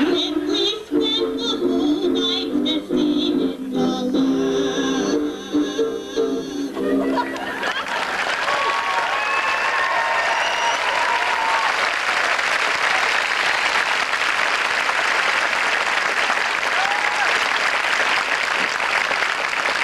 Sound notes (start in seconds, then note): 10.2 audience applauds